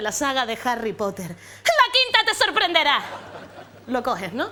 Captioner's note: yells